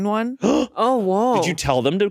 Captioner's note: gasps